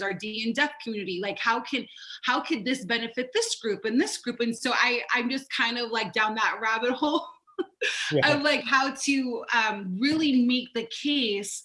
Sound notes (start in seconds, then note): 7.9 laughs